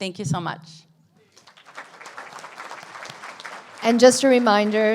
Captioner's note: audience applauds